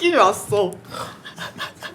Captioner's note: snorts again